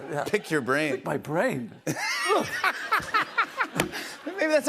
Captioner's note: laughs